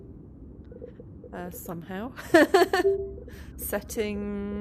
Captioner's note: laughing